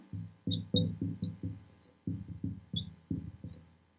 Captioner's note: marker scratching